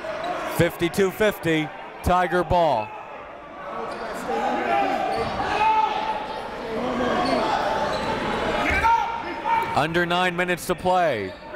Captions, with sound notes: 52-50, Tiger ball. (crowd talking) (coaches yelling) Under nine minutes to play.